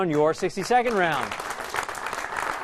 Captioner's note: applause